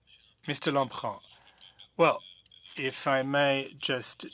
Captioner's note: speaking French